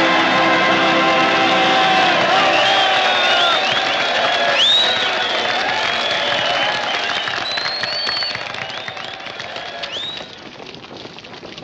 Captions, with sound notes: Bravo! Bravo! (Whistling)